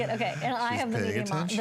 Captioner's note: laughter